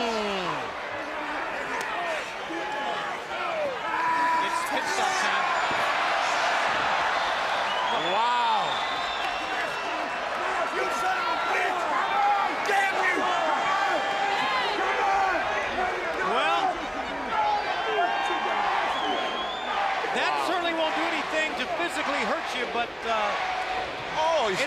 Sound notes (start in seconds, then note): 0.2 crowd chatter; 6.6 crowd cheering; 9.3 crowd chatter; 17.0 crowd chatter